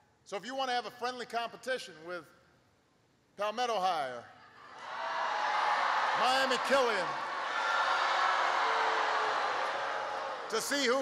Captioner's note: applause